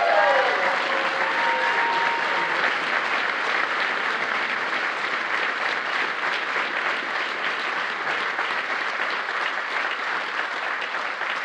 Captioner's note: applause